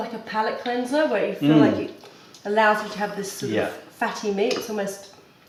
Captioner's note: french language